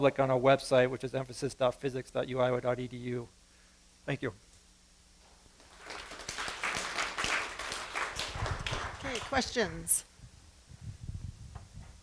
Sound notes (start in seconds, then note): 5.6 applause